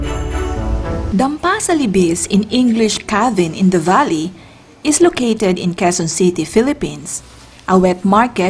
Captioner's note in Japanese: 英語